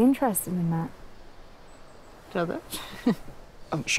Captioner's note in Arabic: ضحكة مكتومة